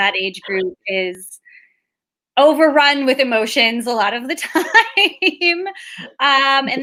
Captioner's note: laughs